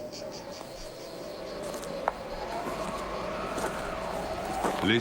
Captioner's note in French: Sifflement du vent